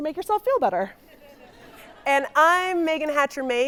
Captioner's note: audience laughing